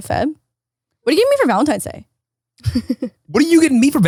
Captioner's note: chuckles